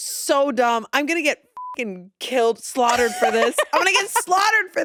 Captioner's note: beep